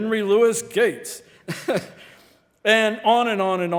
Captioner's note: laughing